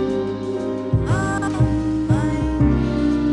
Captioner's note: faded, distorted